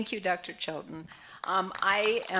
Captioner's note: applause